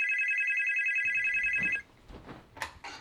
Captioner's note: phone Ringing